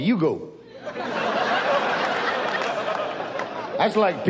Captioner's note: audience laughs